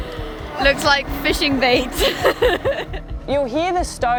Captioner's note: laughs